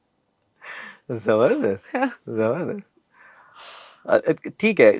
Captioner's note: laughter